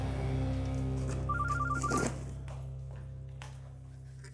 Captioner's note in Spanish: suena el teléfono